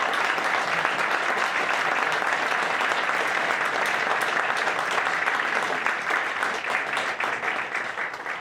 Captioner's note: audience applauding